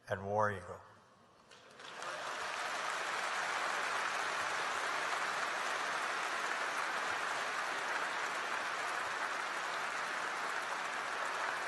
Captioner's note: applause